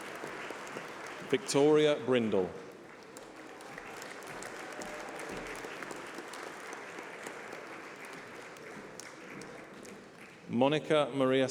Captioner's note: applause